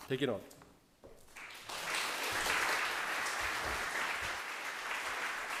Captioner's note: audience applauding